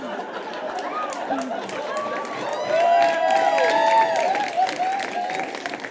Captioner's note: audience cheers and applauds